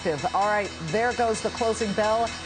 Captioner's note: closing bell rings